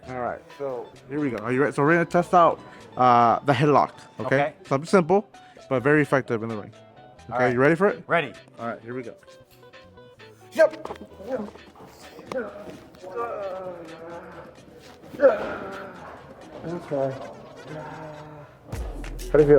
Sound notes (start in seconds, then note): 10.6 grunting; 18.1 sighing